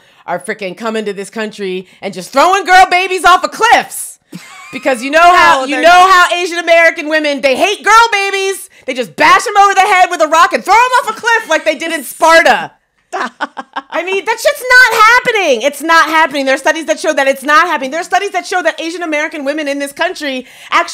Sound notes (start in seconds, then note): 4.3 laughs; 13.1 laughs